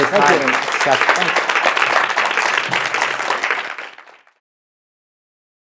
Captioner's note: audience applauding